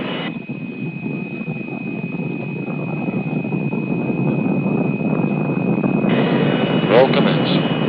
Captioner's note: engine sound